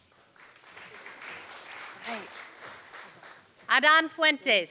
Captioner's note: applause